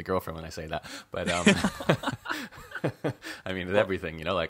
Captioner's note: laughs